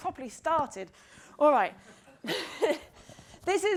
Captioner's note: laughs